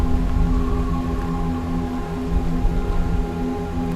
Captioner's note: wind, water